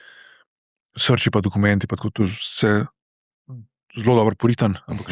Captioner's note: coughing